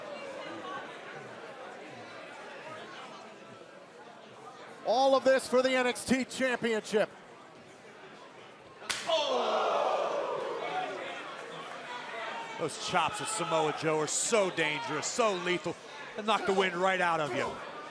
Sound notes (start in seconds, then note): 0.2 crowd chatter; 12.4 crowd cheering; 17.7 crowd chatter